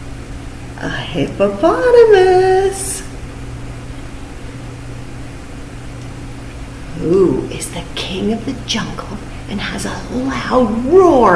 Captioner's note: roaaarrr